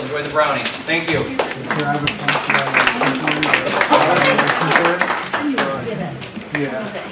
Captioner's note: applause and talking